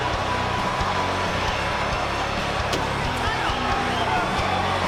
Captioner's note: audience cheering